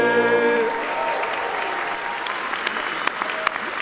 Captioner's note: applauding